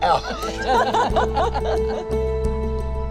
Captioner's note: laughing; inspiring music